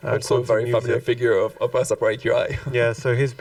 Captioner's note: chuckles